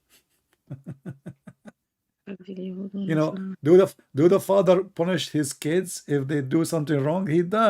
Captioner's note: Ketawa